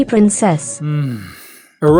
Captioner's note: groans